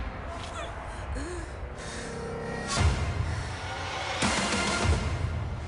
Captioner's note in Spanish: Quejidos